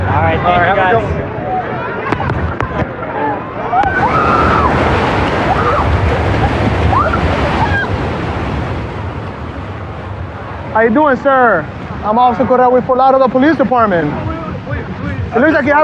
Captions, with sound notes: Thanank k you.u. - - AlAll right.t. ThThank k yoyou, g guyu. [excxcitited s scrcreamim] How How you u dodoing,g? I'I'm OfOffificer r CoCorreaea t LaLauderdale P Pololice e DeDe.